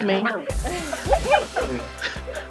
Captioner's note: laughter; chill music